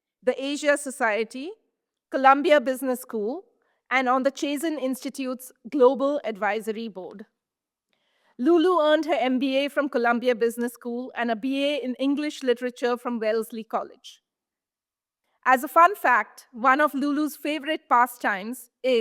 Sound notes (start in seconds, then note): none